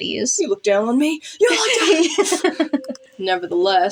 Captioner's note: laugh